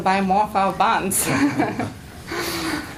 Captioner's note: laughter